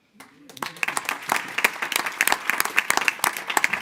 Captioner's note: board applauding